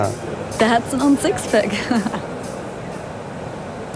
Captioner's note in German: Sie lacht